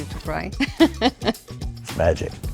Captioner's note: laugh